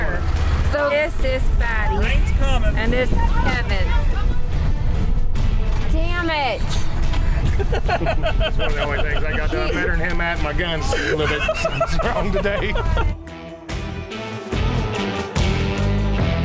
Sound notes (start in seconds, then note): 7.2 laughing; 10.8 laughter; 13.8 upbeat music